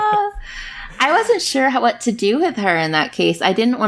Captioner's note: laughs